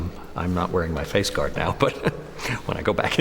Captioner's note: laughs